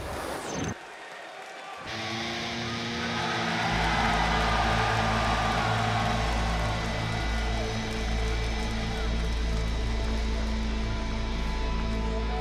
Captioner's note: crowd cheering